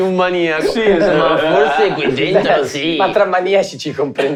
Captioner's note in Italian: Risate continuano